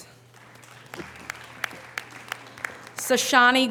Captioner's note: audience applause